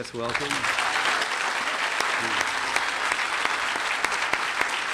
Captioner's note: clapping